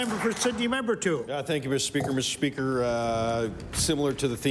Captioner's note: applause